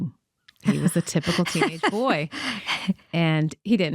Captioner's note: laughing